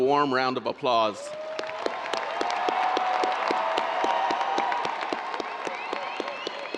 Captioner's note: audience cheering and applauding